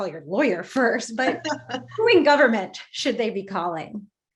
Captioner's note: laughs